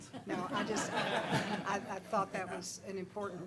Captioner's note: laughter